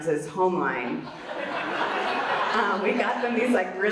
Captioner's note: audience laughs